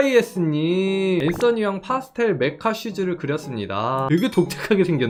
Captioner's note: voiceover